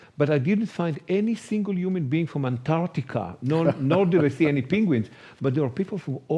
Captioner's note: chuckles